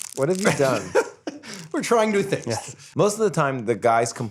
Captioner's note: laughs